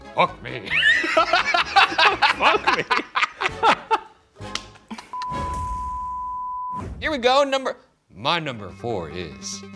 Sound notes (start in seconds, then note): 0.6 all laughing; 5.2 high-pitched tone beeping